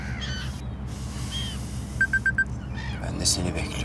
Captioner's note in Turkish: telefon çalıyor